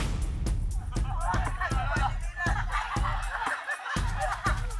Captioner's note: laughs